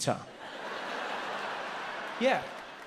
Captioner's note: audience laughs